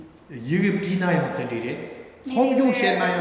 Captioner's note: speaking tibetan